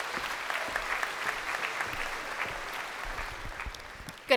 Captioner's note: crowd applauding